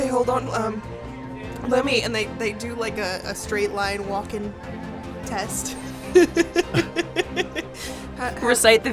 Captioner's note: laughs